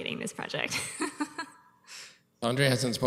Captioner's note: laughs